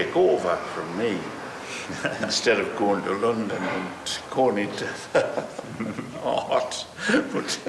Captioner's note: laughter